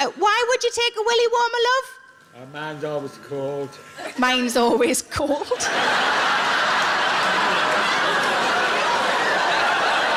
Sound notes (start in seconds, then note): 5.4 audience laughs